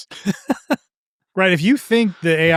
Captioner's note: laughing